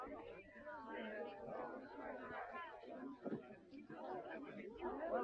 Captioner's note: people chattering